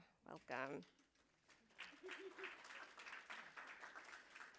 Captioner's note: applause